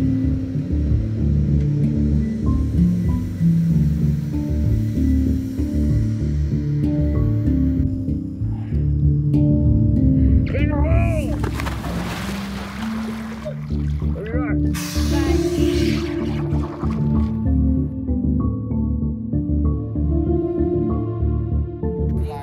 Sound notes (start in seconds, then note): 0.2 soft music; 3.1 machine whirring; 7.5 soft music; 10.4 man shouts; 11.2 water splashing; 14.7 people chattering; 19.3 soft music